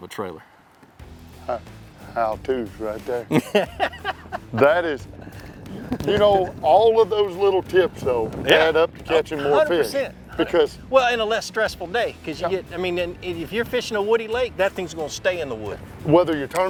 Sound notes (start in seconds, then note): 1.0 rock music; 3.2 laughs